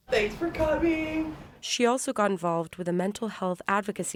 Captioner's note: voice-over